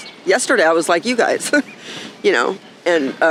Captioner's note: laughing